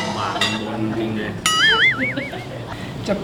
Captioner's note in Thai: เสียงหัวเราะ